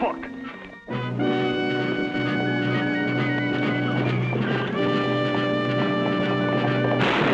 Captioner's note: gunfire